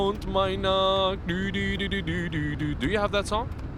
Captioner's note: humming